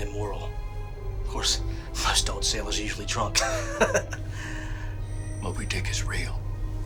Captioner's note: laughs